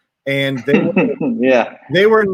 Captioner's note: laughs